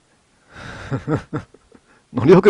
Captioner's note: laughter